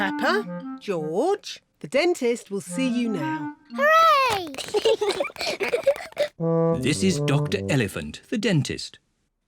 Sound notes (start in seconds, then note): 4.4 both giggle